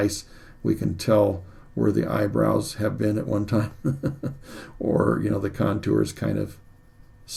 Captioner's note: chuckles